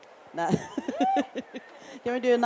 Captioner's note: laughs